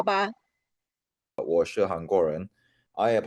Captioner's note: speaking Chinese